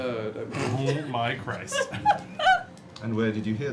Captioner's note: laughter